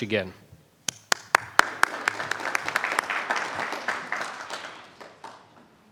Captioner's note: attendees applauding